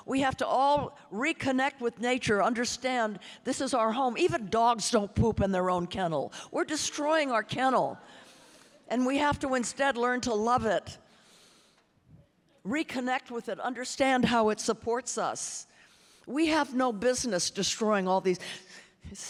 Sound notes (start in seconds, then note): none